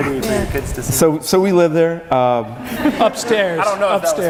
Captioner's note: audience laughing